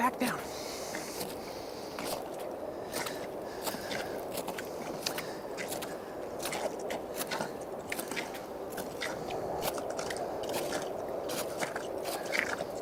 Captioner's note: background - Strong winds, crampons on ice